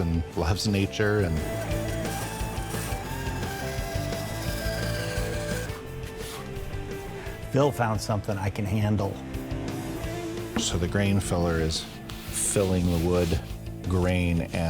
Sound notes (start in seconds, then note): 1.6 machine whirring; 1.7 steady music continues